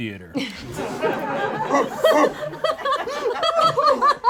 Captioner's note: group laughs